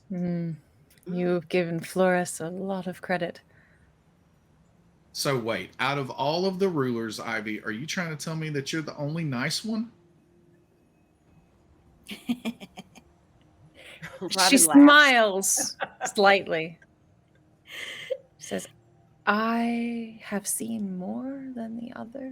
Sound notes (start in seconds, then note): 12.2 Robin cackles